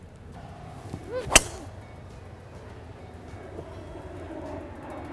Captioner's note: hitting golf ball